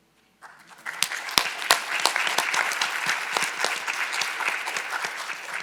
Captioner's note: audience applauding